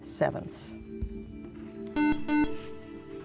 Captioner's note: buzzer